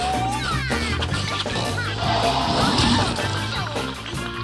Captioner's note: grunting; whipping music